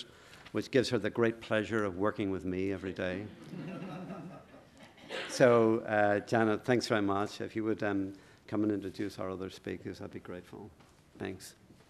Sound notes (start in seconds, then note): 3.3 audience chuckling